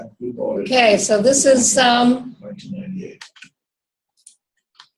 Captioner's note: chats softly